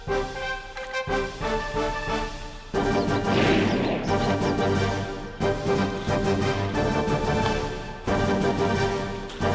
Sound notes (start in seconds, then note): 2.9 gunshot bangs